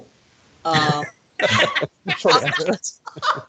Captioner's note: laughing